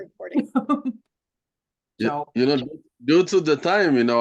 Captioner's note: laughter